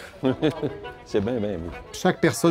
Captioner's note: chuckles